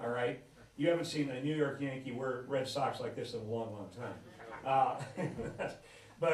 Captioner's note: laughs